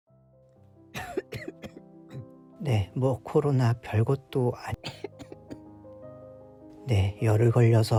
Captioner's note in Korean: 기침 소리